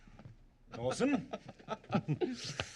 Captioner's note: laughing